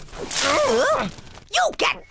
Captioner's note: splashing